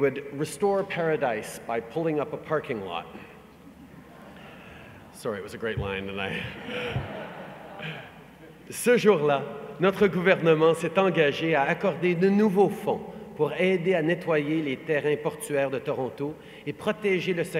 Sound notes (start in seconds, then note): 6.2 laughter